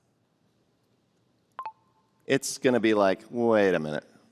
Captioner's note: computer chirps